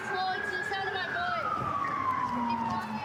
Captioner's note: sirens